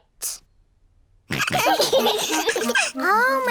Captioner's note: all laughing